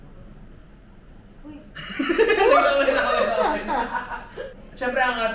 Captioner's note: laughs